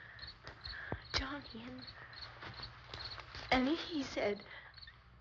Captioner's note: none